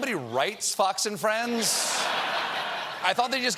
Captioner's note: laughter